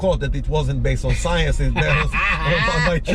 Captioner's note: laughs